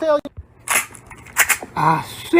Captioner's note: gun cocking